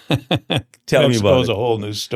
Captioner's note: laughs